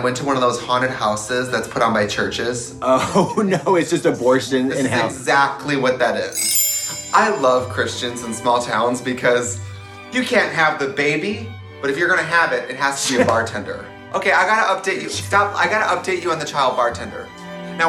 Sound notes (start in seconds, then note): 3.3 chuckles